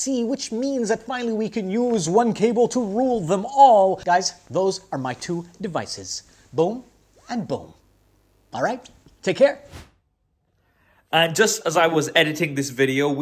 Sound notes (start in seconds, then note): 9.6 air whooshing